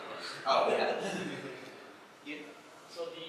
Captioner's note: laughs